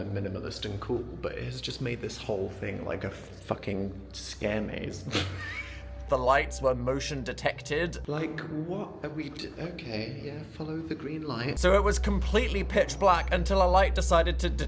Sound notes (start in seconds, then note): 5.0 laughs